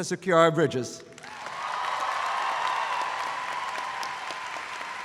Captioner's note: audience cheering